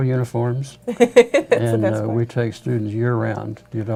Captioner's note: laughing